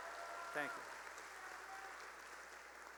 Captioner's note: cheering and applause